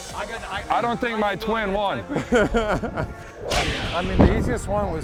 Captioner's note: laughs